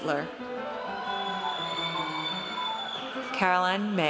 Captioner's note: audience cheers